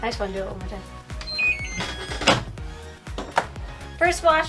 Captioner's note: machine beeping